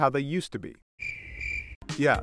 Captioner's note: crickets